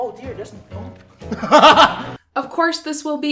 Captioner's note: laughing at Himself